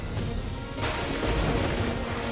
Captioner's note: lightning crackling